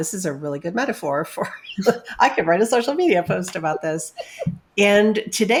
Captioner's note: laughs